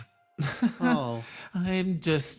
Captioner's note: awkward Laugh